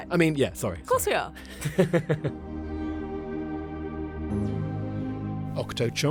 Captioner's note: voiceover